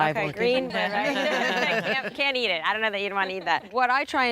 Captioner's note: laughter